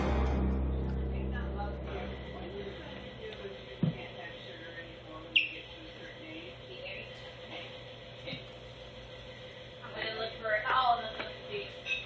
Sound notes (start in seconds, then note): 3.4 patrons talking